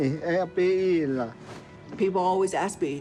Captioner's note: speaks navajo